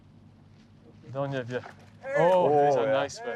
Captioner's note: splashing